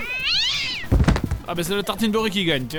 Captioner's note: meow of angry cat; falling noise